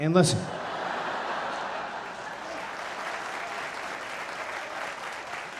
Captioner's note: audience laughing and applauding